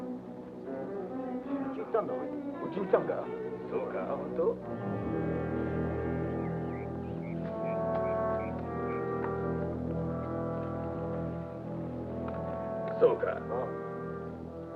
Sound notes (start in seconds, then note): 2.2 soldiers speak Japanese; 7.1 tense somber music